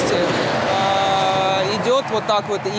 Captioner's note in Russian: шум проезжающей машины